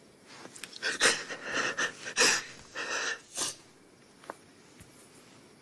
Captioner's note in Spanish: Sollozos